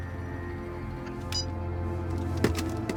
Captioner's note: beeps